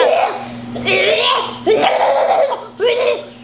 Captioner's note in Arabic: سوبرمان وتصدر أصواتا غريبة